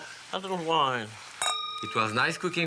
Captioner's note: crystal rings